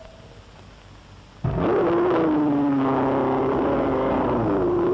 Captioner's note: roars